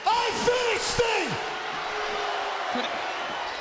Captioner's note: crowd chatter